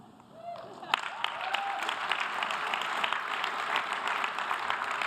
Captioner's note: audience applause